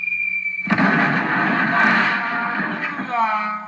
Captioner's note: thud